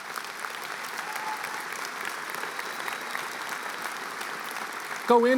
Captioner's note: applause